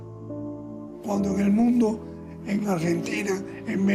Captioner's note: speaking Spanish